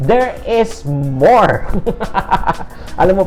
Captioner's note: laughter